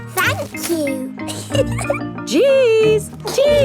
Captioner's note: snorts; giggles